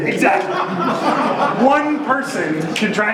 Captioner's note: audience laughing